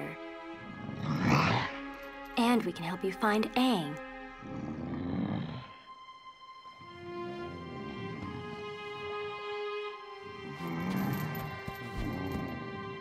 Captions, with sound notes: [Appa grunting] And we can help you find Aang. [grunting]